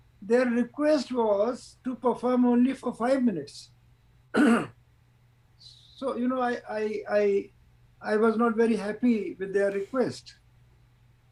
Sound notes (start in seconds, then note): 4.3 clears throat